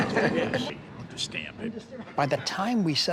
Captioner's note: people laughing